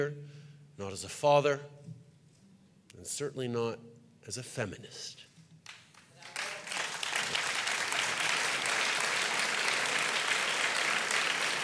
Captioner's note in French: Applaudissements